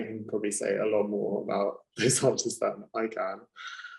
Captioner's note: laughing